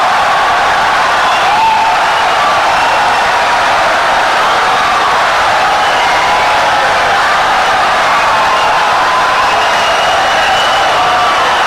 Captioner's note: wild applause and cheering for 17 seconds